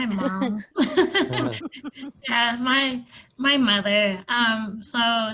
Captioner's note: laughter